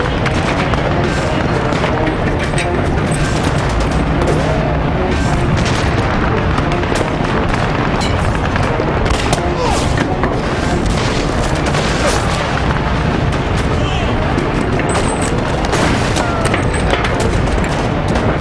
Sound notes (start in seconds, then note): 0.2 guns firing; 9.4 grunting